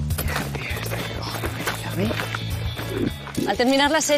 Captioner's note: whispering